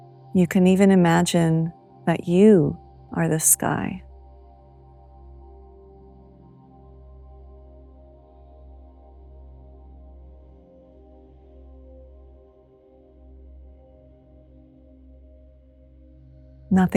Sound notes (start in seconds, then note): 4.0 silence